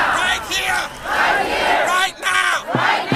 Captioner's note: crowd